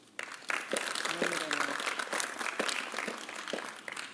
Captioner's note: applause